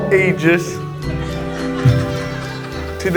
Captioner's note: laughter